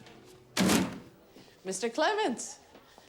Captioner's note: papers thud